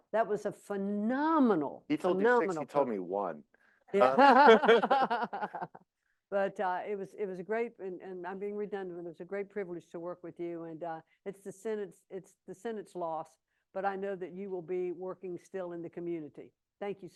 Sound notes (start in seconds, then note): 4.0 laughs